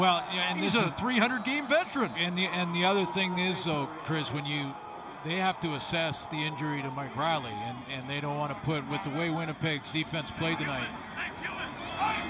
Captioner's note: laughs